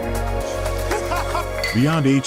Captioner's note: damp laughter